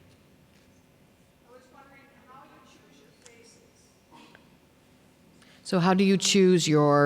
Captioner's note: voiceover